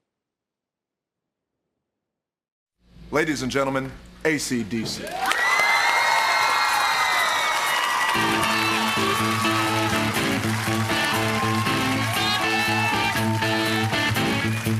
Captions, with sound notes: Ladies and gentlemen, ACDC. [all cheering]